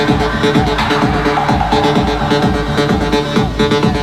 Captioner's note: hype electronic dance music; cheering